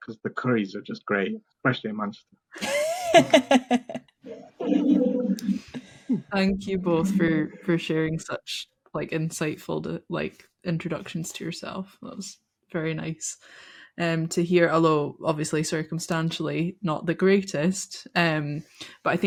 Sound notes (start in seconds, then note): 2.5 laughing